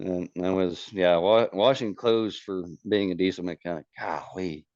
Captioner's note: laughs